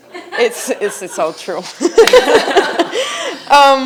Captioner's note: laughs